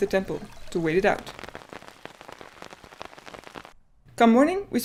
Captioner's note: rain in question, tip tapping melodiously